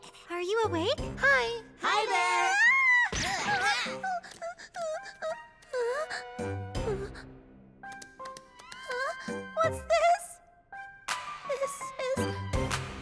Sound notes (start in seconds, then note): 2.0 screams, whimpers